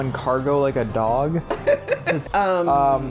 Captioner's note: laughs